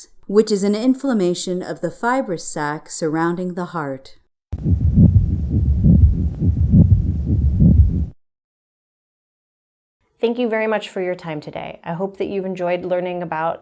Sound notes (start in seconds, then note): 4.5 heart beating